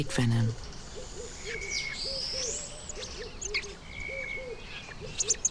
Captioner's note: birds chirping